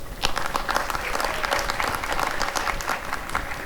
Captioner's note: applause and cheering